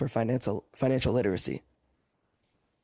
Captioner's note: speaking French